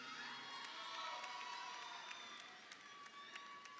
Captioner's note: crowd cheering